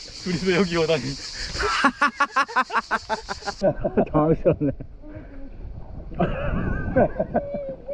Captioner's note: laughing